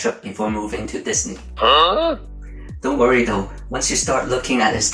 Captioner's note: huh!? sound effect